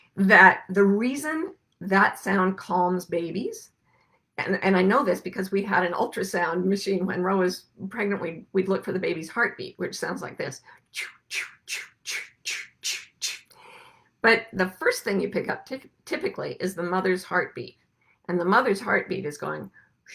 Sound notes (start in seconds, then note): 11.3 breathes